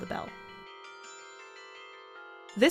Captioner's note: bells chiming